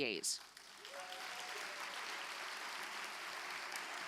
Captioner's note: audience applauding